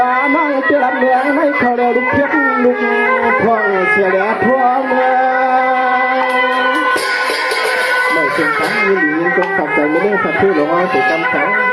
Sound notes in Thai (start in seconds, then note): 6.2 ปรบมือ